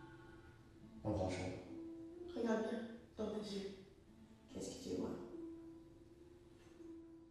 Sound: television, french dialogue with somber instrumentals

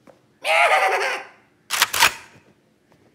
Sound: imitating goat

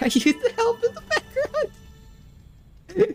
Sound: dying of laughter, again; a single giggle

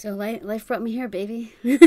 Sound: laugh

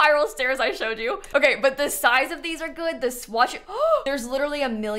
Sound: gasps

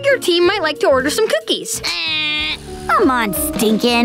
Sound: buzzer sound

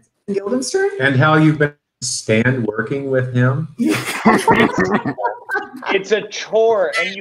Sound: laughs

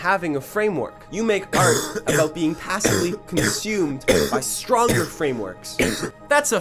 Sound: coughing

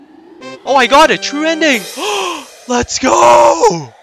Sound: gasp

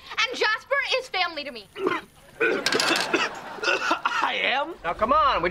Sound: coughing

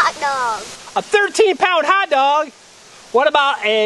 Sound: voiceover

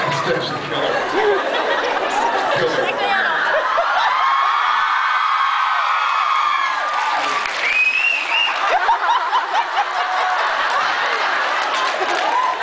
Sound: laughs and screams

